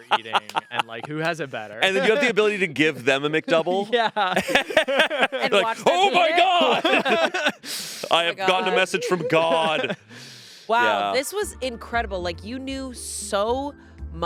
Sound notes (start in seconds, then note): 4.2 group laughing